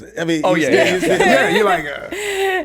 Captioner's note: laughs